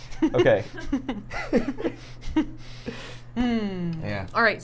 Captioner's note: Saf laughs; laughs